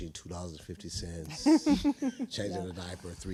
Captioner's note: laughing